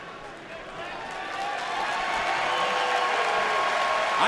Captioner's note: cheers and applause